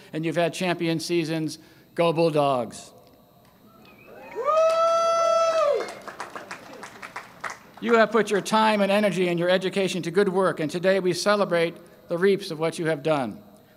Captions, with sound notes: and you've had champion seasons - Go Bulldogs! [cheering and applause] You have put your time and energy, and your education to good work and today we celebrate the reaps of what you have done.